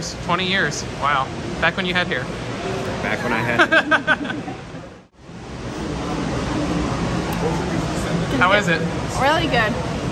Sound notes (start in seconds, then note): 3.0 laughs